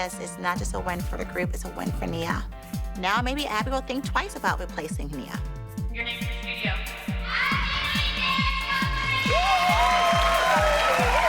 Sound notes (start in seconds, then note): 8.6 cheering